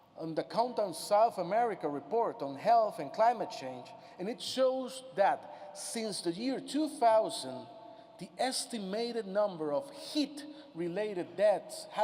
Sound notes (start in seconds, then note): none